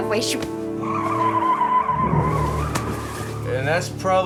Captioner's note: tires screeching